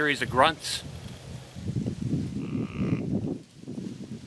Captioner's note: grunting